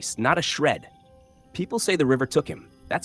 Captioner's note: pause